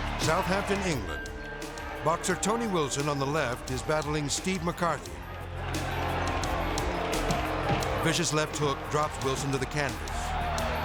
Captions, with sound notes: Southampton, England, boxer Tony Wilson on the left is battling Steve McCarthy. (crowd cheering) Vicious left hook drops Wilson to the canvas.